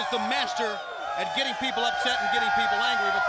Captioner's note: crowd chatter